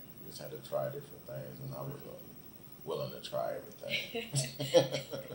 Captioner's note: both laugh